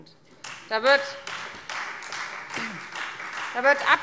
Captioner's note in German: Beifall Freie Demokraten